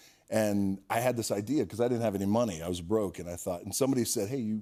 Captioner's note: none